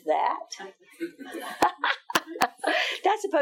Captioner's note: laughing